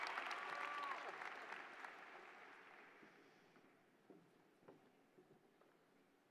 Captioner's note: applause